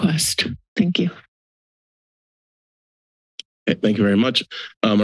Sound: silence

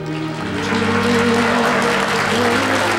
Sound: audience clapping

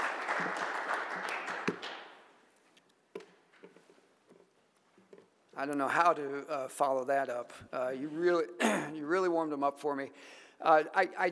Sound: applause

